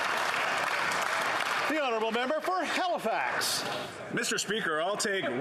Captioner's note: some Applause